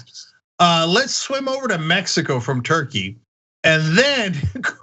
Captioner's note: laugh